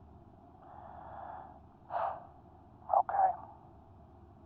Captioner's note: Gem huffs